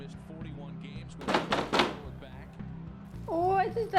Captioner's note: sound of banging on front door